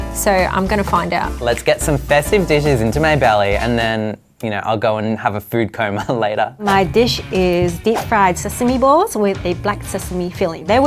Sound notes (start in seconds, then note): 5.9 chuckles